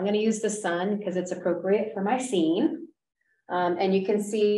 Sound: none

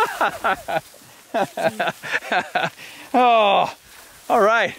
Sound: laughing

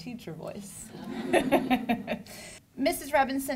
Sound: laughter

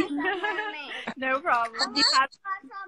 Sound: laughs

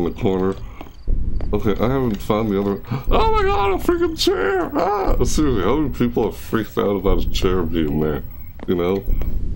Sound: gasp

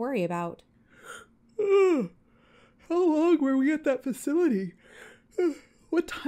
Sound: yawn

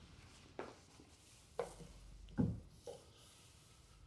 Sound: footsteps clacking

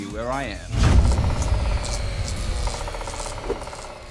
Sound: electricity crackling; rapid tapping

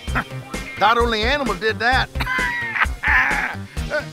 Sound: laughs

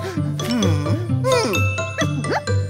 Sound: puzzled sigh

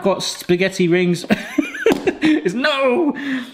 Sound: laughing

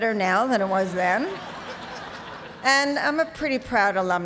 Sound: laughter

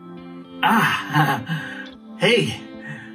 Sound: chuckling

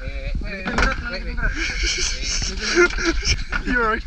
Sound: laughter

